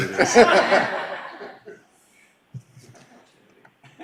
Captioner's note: laughing